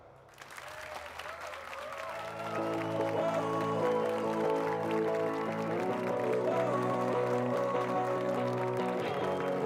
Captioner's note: applause and cheers